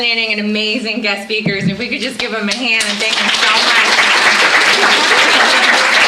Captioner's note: clapping